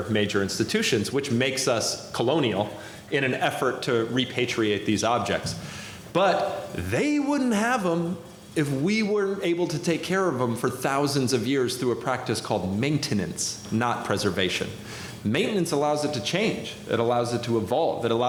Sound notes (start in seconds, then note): none